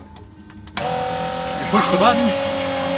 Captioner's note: whirring noise